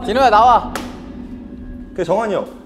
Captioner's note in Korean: 전화기를 내려치는 소리